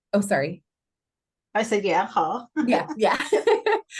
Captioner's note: laughter